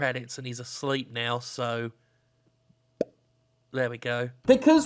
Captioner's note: pops mouth